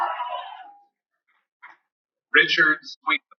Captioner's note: cheering